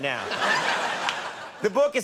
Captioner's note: audience laughs